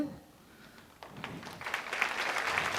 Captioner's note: applause